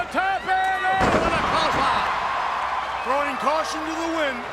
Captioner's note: audience cheers